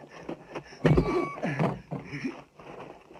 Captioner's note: Ammar grunting